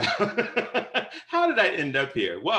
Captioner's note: laughter